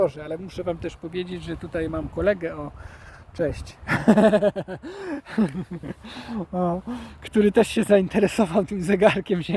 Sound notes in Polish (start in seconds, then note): 3.8 śmiech